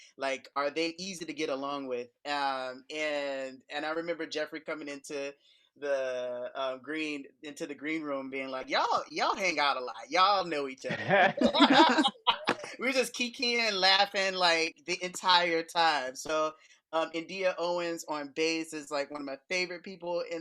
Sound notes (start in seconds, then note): 10.9 laughs